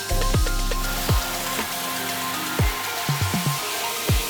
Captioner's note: tool whooshing